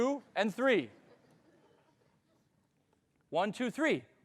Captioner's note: audience laughing